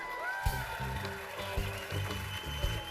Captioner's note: cheers and applause